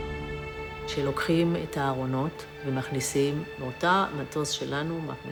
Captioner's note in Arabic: الصوت المنطوق باللغة العبرية